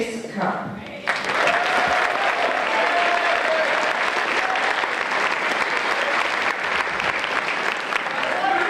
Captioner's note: applause